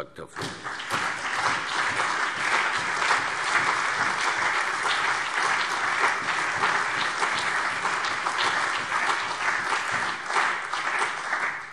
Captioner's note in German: Allgemeiner Beifall